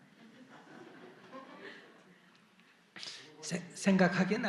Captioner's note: audience Laughter